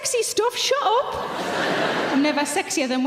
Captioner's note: audience laughing